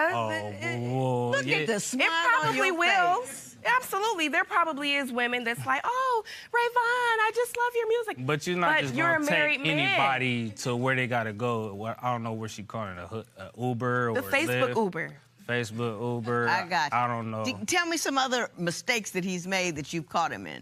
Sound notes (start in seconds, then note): 6.2 high-pitched voice; 15.1 normal voice